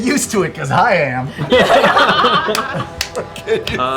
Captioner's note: laughter